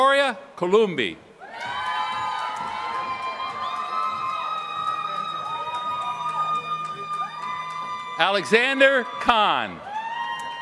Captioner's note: applause